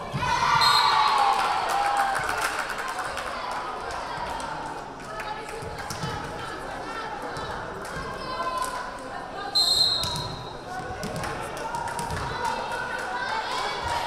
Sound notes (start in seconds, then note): 0.2 crowd cheering; 0.6 whistle blaring; 9.6 whistle blaring